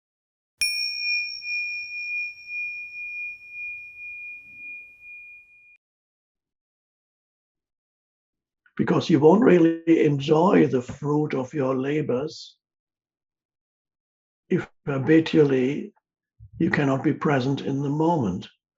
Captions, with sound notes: (bell rings) - Because you won't really enjoy the fruit of your labors, if habitually, you cannot be present in the moment.